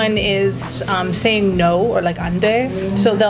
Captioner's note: speaking in Korean